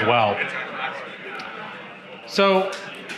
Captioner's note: audience chattering